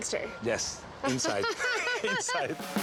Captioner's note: laughs